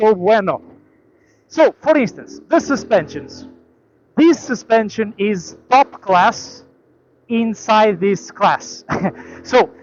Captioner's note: laughs